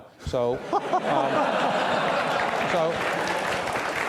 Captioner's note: audience laughter